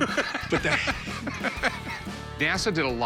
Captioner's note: laughter